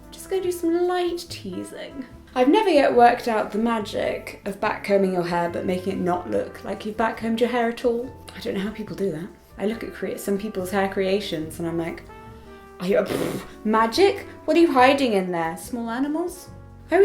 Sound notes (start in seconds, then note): 12.9 blows raspberry